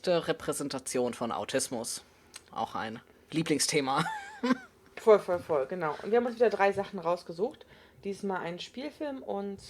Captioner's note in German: lacht